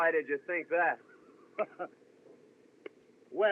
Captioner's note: chuckles